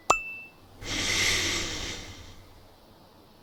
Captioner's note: ascending pop dings; inhale